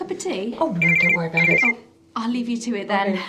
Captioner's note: phone rings